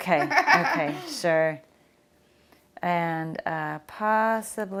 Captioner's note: laughs